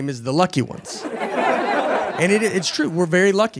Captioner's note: audience laughing